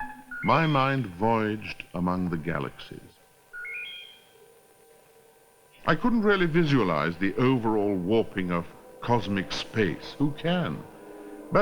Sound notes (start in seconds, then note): 3.4 trilling